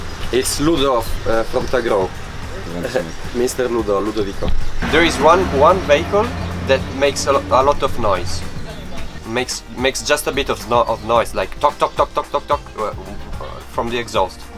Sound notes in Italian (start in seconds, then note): 0.2 Inglese